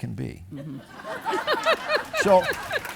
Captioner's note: audience laughing